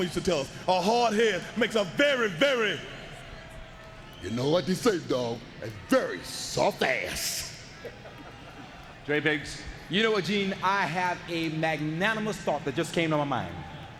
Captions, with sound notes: used to tell us, a hard head makes a very, very... You know what they say, dog? A very soft ass. (people chuckling) J Biggs. You know what, Gene? I have a magnanimous thought that just came to my mind.